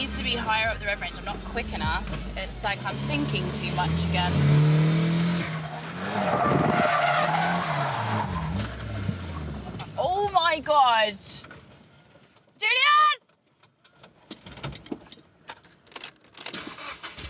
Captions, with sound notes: Need's a higher rev range. I'm not quick enough. It's like I'm thinking too much again. [TIRES SCREECHING] Oh, my God! Julian!